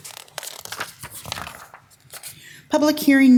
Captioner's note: paper crackling